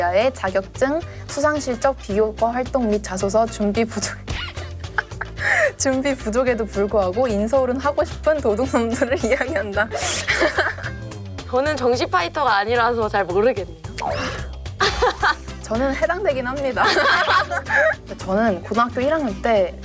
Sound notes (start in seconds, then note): 4.3 laughing